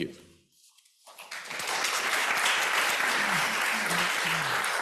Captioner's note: applause